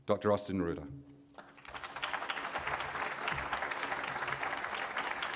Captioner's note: applause